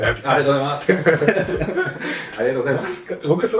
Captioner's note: laughs